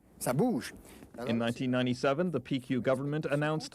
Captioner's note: man speaking French